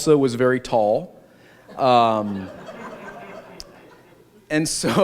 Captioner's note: laughter